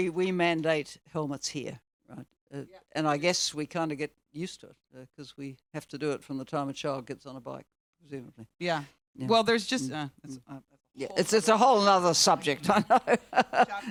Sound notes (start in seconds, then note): 12.6 laughs